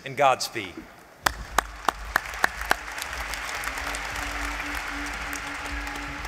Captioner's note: applause